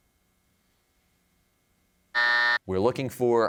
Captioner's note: buzzer